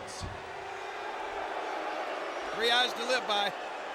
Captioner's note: audience booing